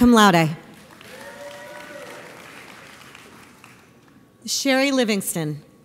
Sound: audience applauds

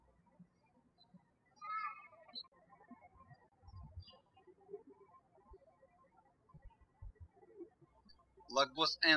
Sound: birds chirping

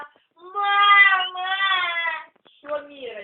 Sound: cry

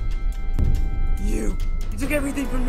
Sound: boom

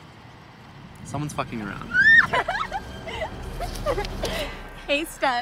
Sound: screaming and laughing

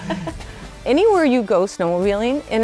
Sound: laugh

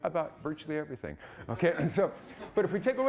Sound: audience laughing

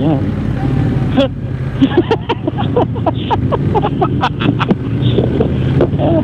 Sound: group laughing

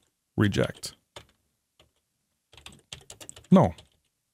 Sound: keyboard clicking

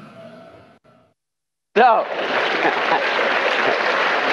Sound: applause

